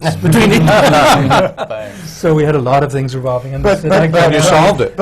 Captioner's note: laughter